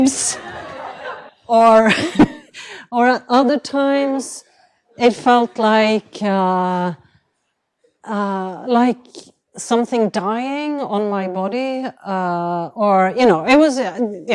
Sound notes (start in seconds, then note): 0.1 laughter; 0.3 chuckles